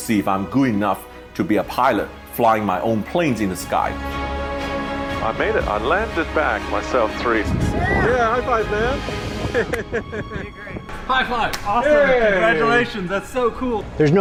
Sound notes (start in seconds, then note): 9.3 laughing